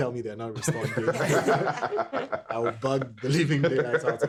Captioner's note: everyone laughing